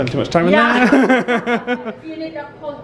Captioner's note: pair laughing